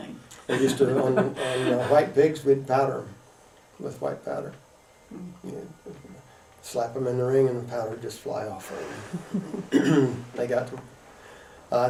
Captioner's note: laughter